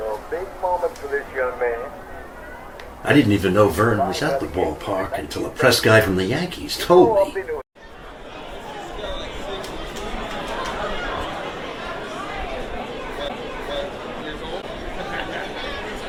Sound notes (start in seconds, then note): 7.7 group chattering